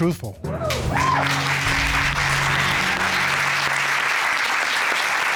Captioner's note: cheers and applause